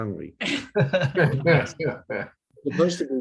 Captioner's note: laughs